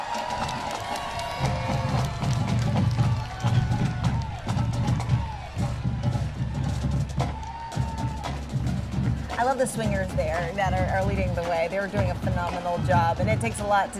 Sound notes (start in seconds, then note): 0.0 marching band playing; 3.7 cheers and applause